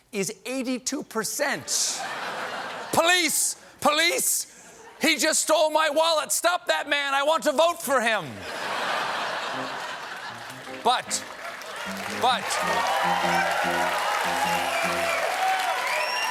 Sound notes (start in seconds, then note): 8.4 laughter; 9.5 cheers and applause